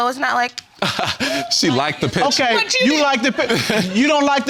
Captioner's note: laughs